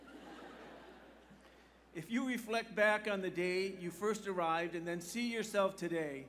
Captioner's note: laughter